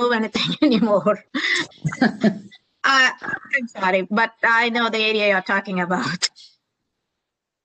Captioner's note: laughter